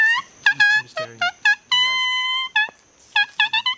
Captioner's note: whistling